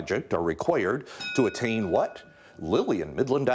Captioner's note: bell rings